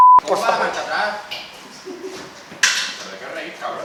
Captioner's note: laughs